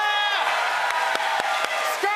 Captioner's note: cheers and applause